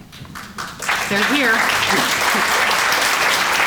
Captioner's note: applause